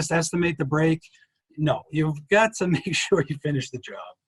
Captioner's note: chuckles